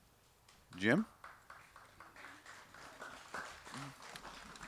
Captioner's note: applause